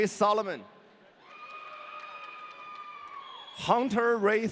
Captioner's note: audience cheering